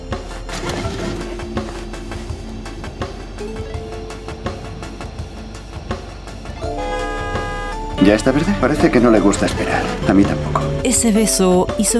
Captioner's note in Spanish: Bocinas